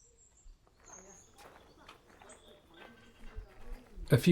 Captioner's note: shuffling feet and background voices chatter